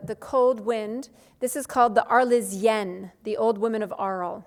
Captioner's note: speaks foreign language